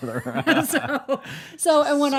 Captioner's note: laughing